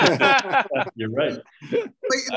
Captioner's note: all laugh